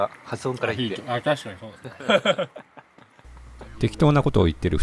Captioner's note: laughs